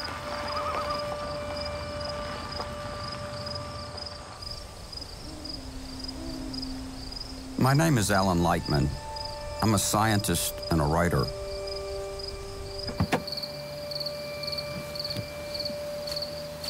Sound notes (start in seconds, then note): 2.0 bird and insect sounds; 14.4 insects chirping